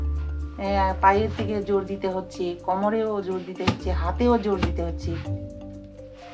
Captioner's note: speaking foreign language